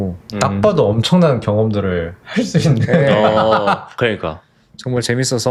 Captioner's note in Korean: 웃음